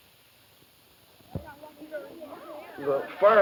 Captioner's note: group chatter